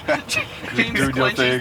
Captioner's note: laughter